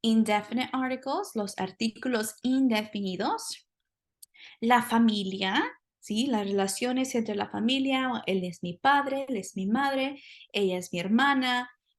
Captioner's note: speaking spanish